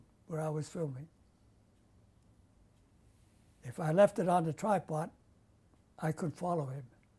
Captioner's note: pauses for 3 seconds